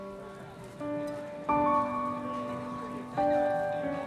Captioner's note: street chatter